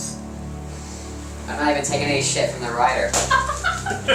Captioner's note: helium-voiced